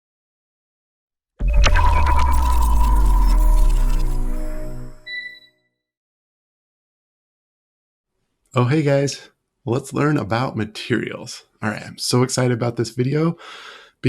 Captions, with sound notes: (electronic chiming) - Oh, hey guys. Let's learn about materials. All right, I am so excited about this video